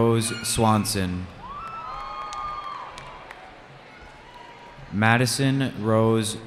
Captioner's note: cheering